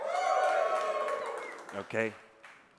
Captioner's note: audience cheering